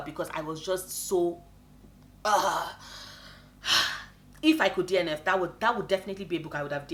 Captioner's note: sigh